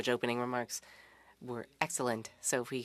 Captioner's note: speaking French